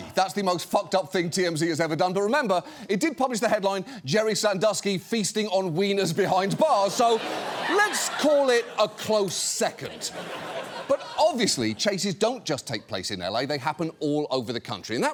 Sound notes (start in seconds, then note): 6.2 studio audience laughs